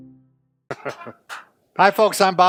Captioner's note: laughing and clapping